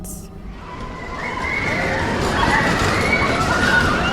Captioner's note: screaming